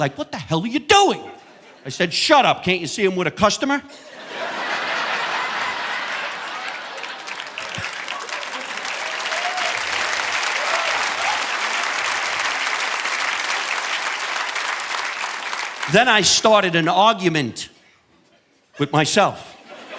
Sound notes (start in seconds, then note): 3.9 audience laughing; 9.4 audience applauding